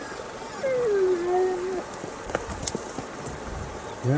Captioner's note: Brutus whining